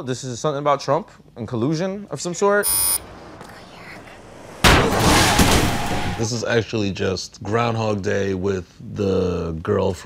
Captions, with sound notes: This is something about Trump and collusion of some sort? [BUZZER] [WHISPERING] This is actually just "Groundhog Day" with the girl